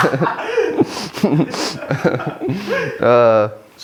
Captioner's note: laughs